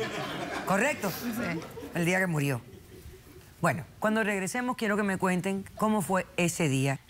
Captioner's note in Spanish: Risas